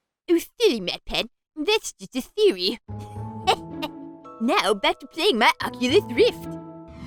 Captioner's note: chuckles